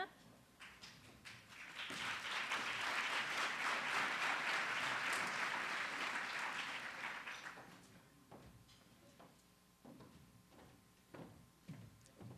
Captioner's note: applause